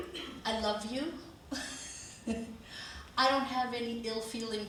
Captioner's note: chuckles